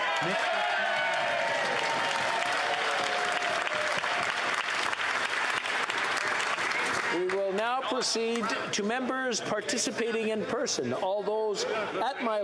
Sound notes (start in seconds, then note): 5.3 cheering; 6.2 applause